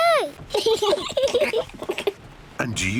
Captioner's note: both laugh